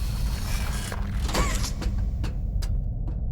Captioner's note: door opens; footsteps